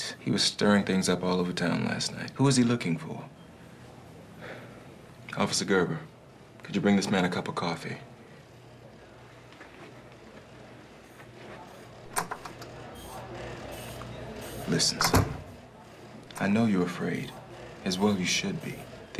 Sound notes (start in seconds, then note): 12.5 door clicking